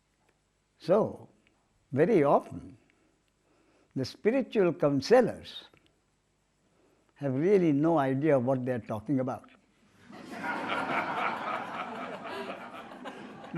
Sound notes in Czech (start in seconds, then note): 10.0 smích